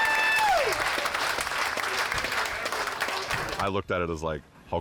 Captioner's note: crowd applauds